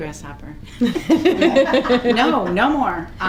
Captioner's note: committee laughs